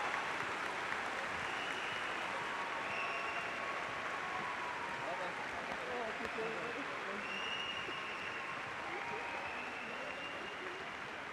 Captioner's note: cheers and applause